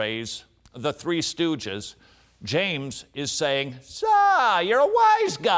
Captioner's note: imitates curly